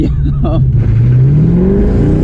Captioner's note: engine purring